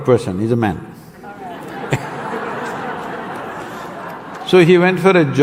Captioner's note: laughs